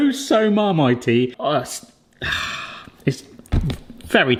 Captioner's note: sighs